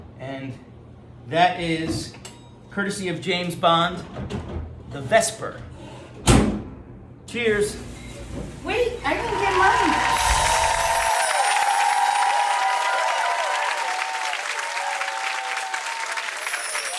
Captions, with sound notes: And that is courtesy of James Bond, The Vesper. Cheers! Wait, I didn't get mine! (crowd cheering)